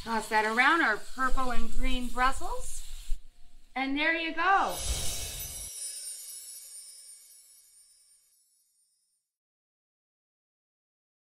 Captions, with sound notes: Toss that around our purple and green Brussels. And there you go. (whooshing) (chiming)